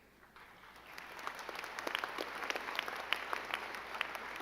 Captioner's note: crowd clapping